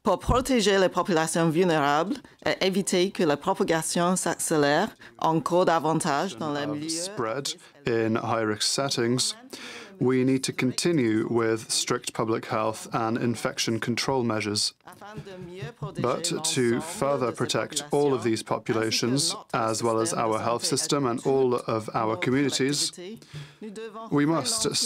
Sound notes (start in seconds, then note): 4.4 speaking french